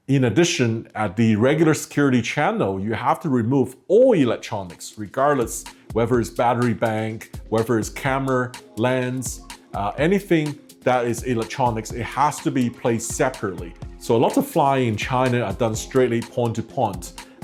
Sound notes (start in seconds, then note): none